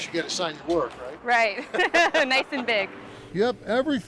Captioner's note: laughing